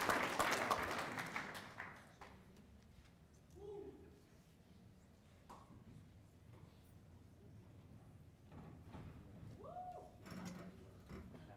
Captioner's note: cheers and applause